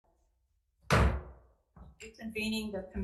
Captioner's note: gavel bangs